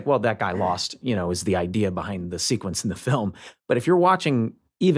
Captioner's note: chuckles